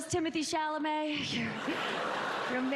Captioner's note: applause